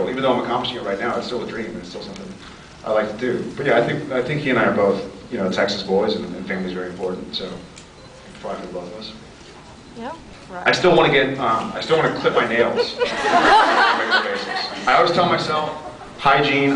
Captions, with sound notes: Even though I’m accomplishing it right now, it’s still a dream, and it’s still something... I’d like to do. But yeah, I think -- I think he and I are both, you know, Texas boys, and -- and family is very important, so... it could apply for both of us. I still want to get um... I still want to clip my nails on a regular basis. [laughs] I always tell myself... hygiene.